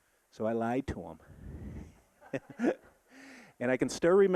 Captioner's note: audience laughing